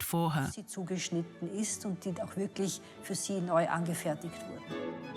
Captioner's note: speaks in foreign language; elegant classical music